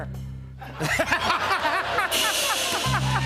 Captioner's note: laughter; rimshot